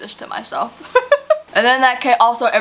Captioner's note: laughs